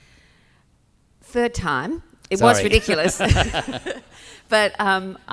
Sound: laughs

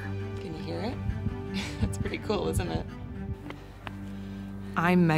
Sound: laugh

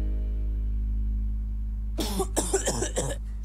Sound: coughing

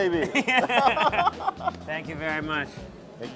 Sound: laughs

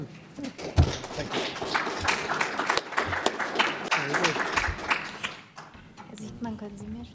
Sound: applause

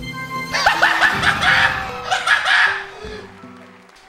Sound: excited laughter

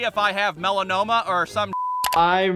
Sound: beep

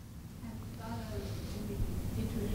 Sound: voiceover

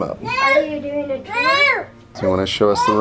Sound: yelling

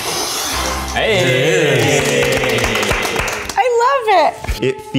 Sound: applause

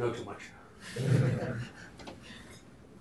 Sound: laughter

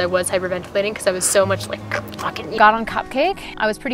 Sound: growls

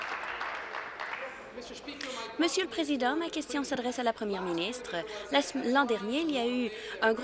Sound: applause

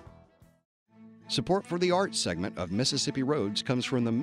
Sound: voiceover

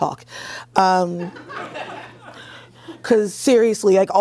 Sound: laughter

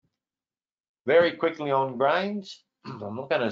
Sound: clears throat

